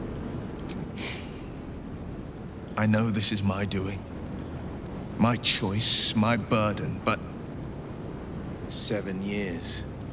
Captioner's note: sighs